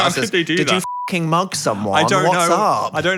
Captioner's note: beep